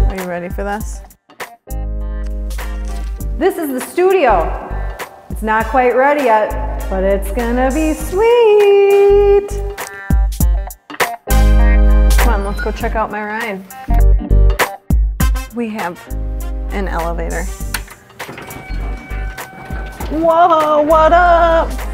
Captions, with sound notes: Are you ready for this? (upbeat music) This is the studio, it's not quite ready yet, but it's gonna be sweet! (upbeat music) Come on, let's go check out my ride. We have an elevator. (elevator beeps) Whoa, what up?